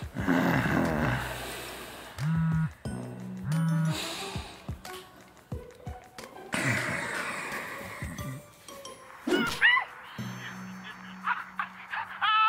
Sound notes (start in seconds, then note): 3.5 phone buzzing; 10.0 shouting